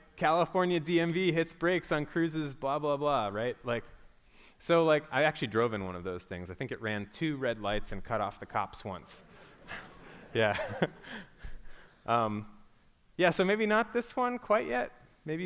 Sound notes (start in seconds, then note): 9.6 laughter